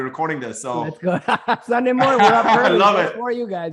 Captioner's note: laughs